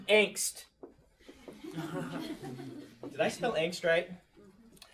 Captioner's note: class laughs